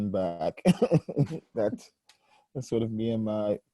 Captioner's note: laughing